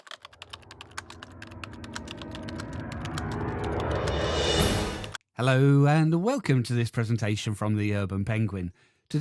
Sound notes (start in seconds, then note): 0.0 typewriter sounds